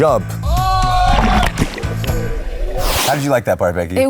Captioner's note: yelling